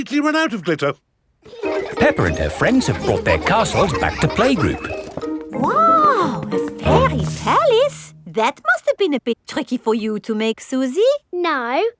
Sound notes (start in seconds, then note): 1.4 children laughing